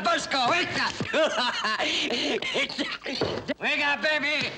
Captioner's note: laughs